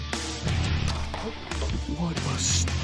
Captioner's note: bow popping